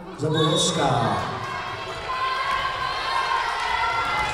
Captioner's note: whistle blowing